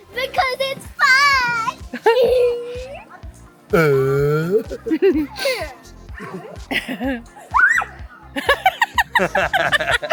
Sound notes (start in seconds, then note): 7.5 shrieks